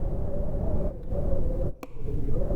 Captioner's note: whistling, forlorn wind